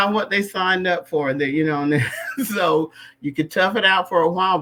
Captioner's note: laughter